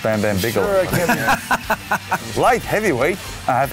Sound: laughs

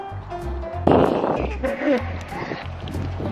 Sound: balloon deflating

